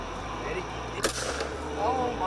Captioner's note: gun firing